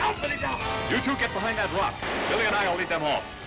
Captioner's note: crash